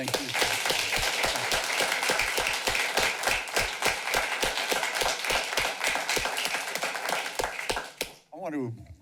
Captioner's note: clapping